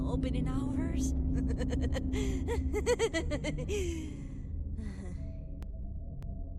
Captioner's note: laughs